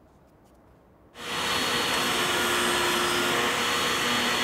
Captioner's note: tool whirring